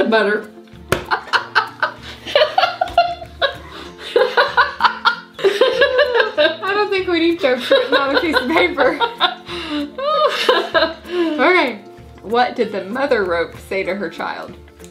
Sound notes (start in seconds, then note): 1.1 laughing; 9.2 both laughing